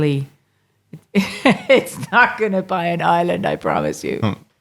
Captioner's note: laughing